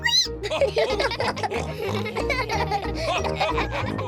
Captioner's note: all giggle; squeaks